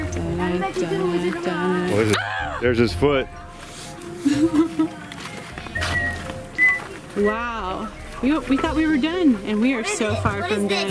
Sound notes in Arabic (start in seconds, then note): 4.2 يضحك بعصبية; 6.5 صفير